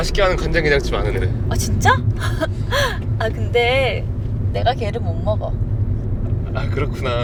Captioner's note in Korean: 웃음